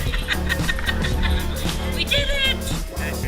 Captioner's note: laughter